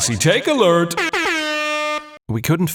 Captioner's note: airhorn noises